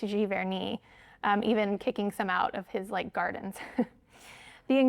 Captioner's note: chuckles